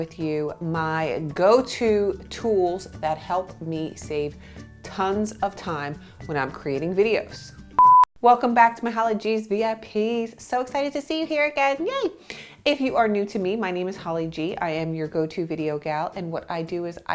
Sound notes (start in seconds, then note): 7.8 beep